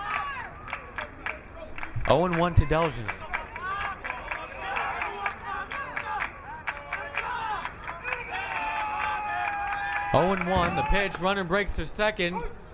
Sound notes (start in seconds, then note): 4.0 crowd clapping